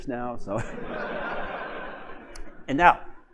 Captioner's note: laughter